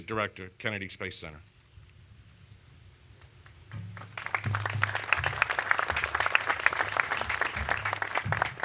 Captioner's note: applause